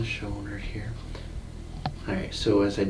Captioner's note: bones popping